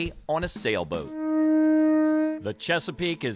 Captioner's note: horn blares